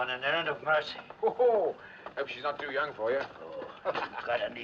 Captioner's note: Risos